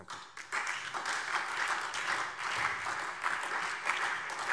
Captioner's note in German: Beifall SPD